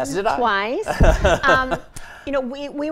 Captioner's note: laughing